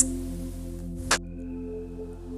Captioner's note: click